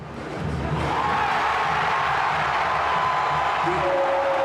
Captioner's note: crowd cheering